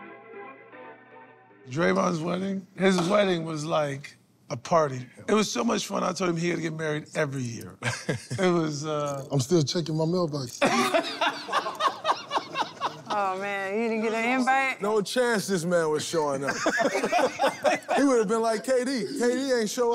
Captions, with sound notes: - Draymond's wedding, his wedding was like a party. - It was. - It was so much fun, I told him he had ought to get married every year. - [laughs] - It was-- - I'm still checking my mail box. [laughter] - Oh, man, he didn't get a invite? - No chance this man was showing up. [laughter] He would have been like KD. KD ain't show up.